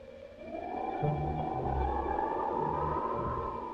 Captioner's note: wind howling